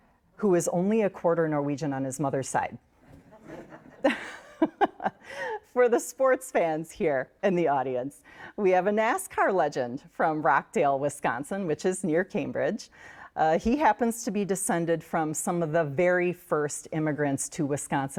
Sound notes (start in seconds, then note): 3.0 all laugh